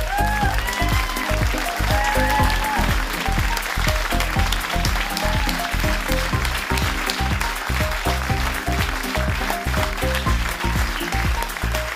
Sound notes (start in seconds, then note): 0.4 cheering from the crowd; 7.9 clapping drowns out speech